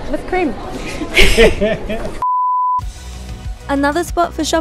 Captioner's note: both laughs